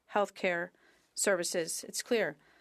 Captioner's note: speaking French